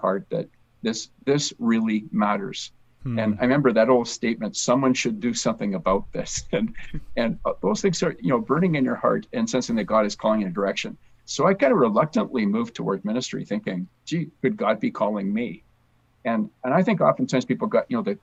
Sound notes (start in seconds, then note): 6.3 chuckles